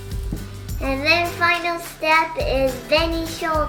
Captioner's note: speaking foreign language